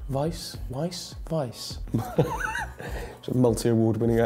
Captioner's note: laughs